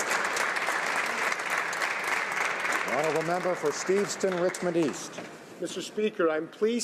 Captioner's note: applause